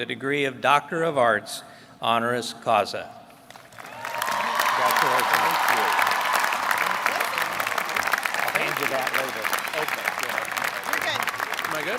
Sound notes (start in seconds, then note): 7.9 applause